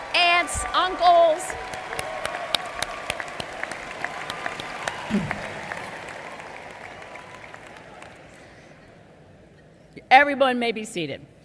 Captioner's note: applause